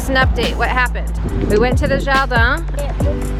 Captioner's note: speaks foreign language